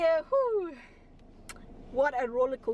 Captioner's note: smacking lips